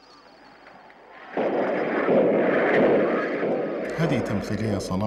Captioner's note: explosion sounds